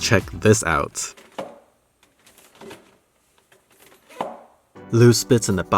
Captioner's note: rattling noises